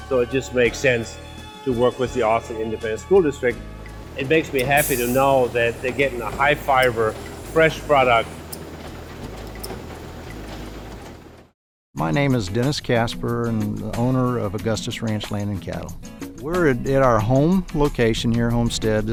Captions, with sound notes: So it just makes sense to work with the Austin Independent School District. It makes me happy to know that they're getting a high fiber, (machine rumbling) fresh product. (bright music) - My name is Dennis Kaspar I'm the owner of Augustus Ranch Land and Cattle. Were in our home, location here, homestead.